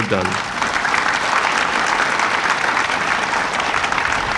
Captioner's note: audience applauding